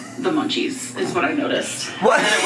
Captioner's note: laughs